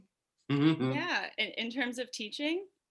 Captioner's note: laughs